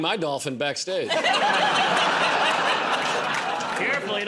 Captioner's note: laughter